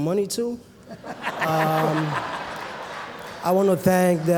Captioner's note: laughter